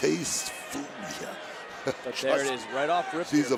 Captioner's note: laughs